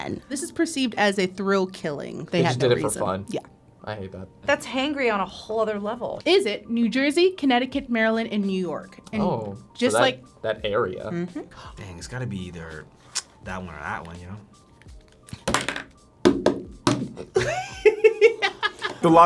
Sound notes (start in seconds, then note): 16.2 whiteboard taps against table; 17.1 laugh